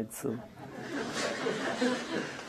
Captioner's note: laughter